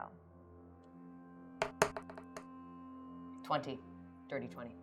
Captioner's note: die rolling